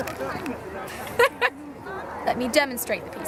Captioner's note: laughter